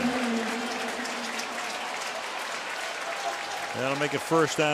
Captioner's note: pa announcement